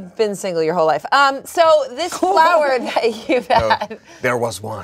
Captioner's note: laughs